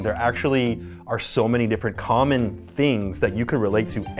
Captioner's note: none